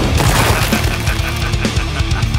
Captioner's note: large explosion; wooden debris crashing to the ground